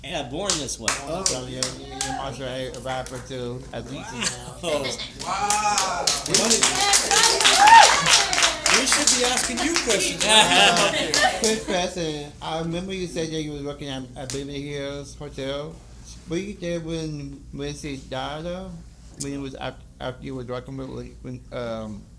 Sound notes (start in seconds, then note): 7.5 applause